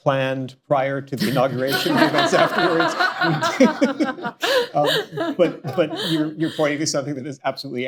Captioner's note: laughter; laughs